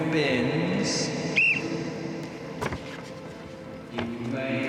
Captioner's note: whistle blows